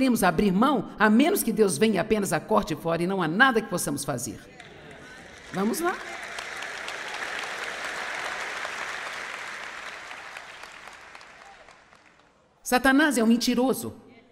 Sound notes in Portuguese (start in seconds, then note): 8.3 audiência aplaude